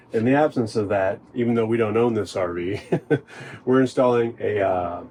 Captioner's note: laughs